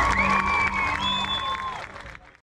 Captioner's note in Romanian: Aplauze